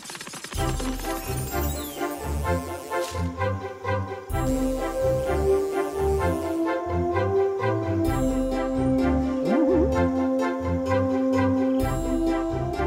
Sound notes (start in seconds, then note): 1.8 buzzing